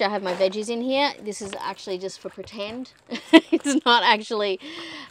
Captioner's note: chuckles